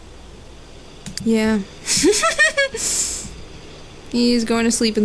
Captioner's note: chortles